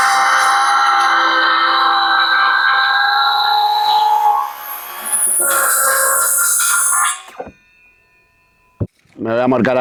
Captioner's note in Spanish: grito